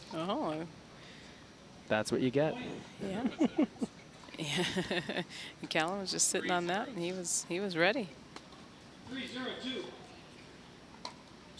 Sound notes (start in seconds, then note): 4.4 laughing